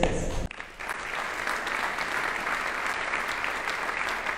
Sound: audience applauding

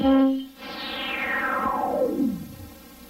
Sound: synthesizer-generated whoosh

